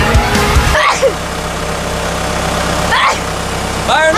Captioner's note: sneezes